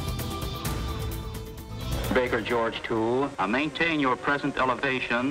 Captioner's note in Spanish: Mensaje de radio en inglés